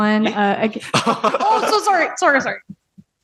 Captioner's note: laughs